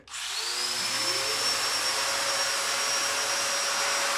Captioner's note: machinery whirs